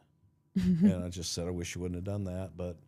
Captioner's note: blue vested woman chuckling